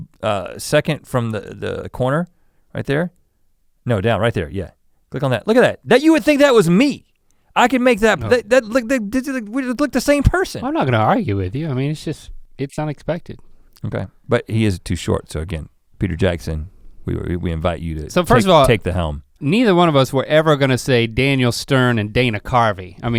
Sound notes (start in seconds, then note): 8.5 mutters